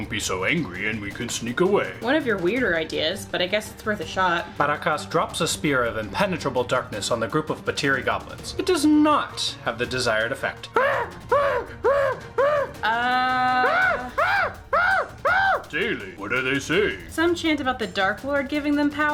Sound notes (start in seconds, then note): 10.7 more frenzied screaming